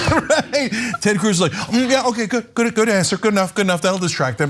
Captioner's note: laugh